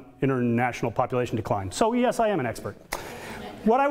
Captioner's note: audience laughter